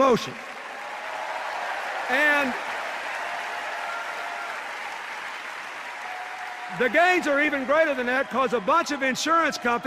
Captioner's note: cheers and applause